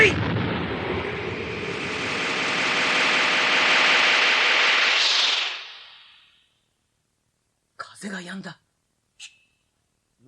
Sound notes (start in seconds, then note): 0.9 SFX: spell sound